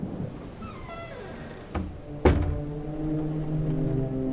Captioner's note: door squeaks